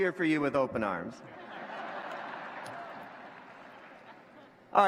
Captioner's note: laughter